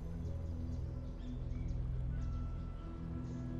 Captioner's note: birds chirp